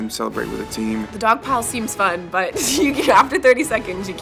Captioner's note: voiceover; laughs